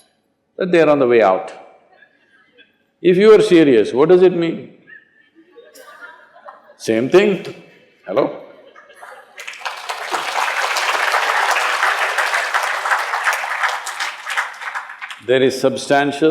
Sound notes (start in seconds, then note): 4.8 laughter; 12.1 applause